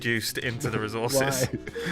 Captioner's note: laughs